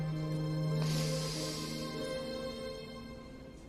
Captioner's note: deep breath